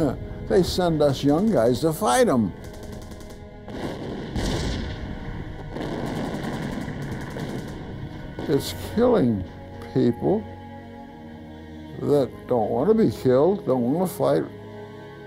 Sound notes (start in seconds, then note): 3.2 gunfire